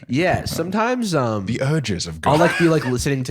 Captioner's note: laughs